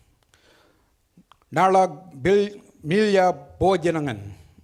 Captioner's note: speaks foreign language